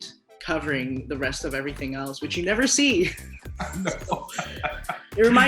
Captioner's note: laughs